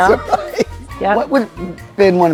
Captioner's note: laughing